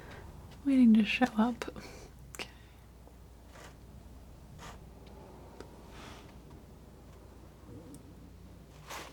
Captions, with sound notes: waiting to show up [scratching]